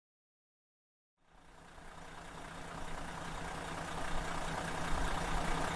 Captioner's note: engine whirring